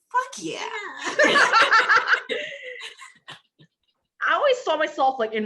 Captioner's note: all laugh